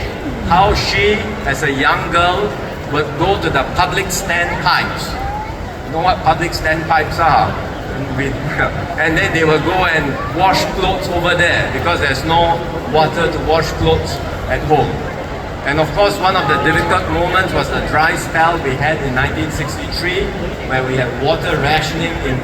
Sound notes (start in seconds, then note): 8.0 chuckles